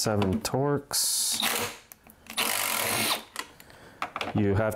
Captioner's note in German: Aufprallbohrmotor brüllt